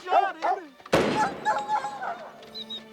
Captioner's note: dog whimpering